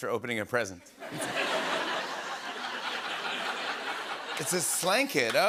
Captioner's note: laughter